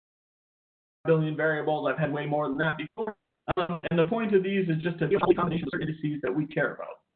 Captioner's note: audio skip